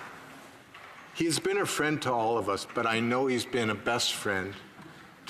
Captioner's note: applause